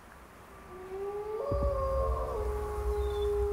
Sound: wolf howling

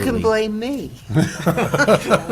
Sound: laughter

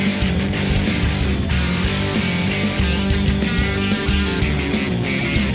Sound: boat enging idling

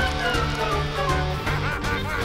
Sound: evil laughter

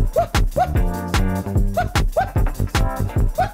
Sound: woo woo

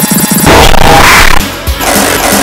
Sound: cue deep-fried audio

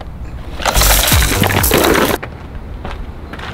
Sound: water spraying

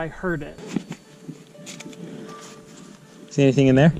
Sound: footsteps

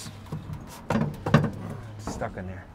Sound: car part rattles

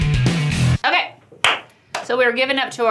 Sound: hands clap

